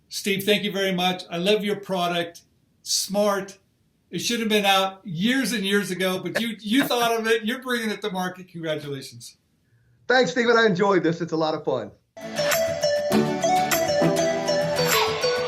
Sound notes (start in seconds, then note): 6.2 chuckles; 12.2 upbeat pop music